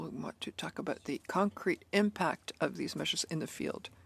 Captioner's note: speaking in French